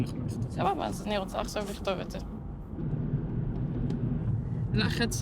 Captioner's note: speaking foreign language